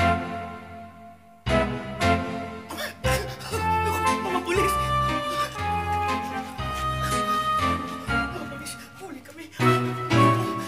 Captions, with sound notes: [shuddering] The police?! Oh no, the police! We're caught!